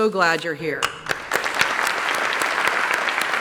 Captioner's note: applause